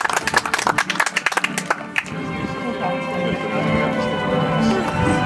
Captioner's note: audience applauds